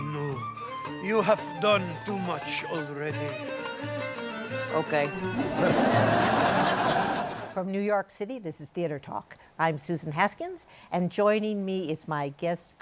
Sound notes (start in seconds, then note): 5.3 laughter